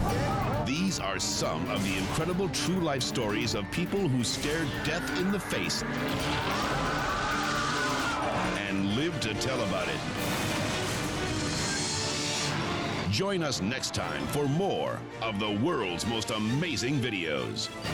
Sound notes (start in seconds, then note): 0.0 dramatic music; 6.0 people screaming; 17.7 dramatic music continues